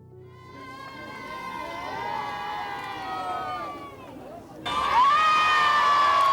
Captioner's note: crowd cheers